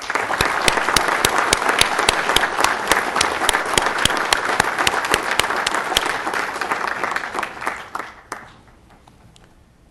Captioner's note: applause